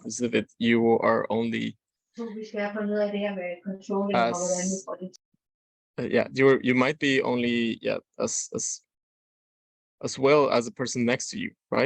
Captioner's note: speaking in foreign language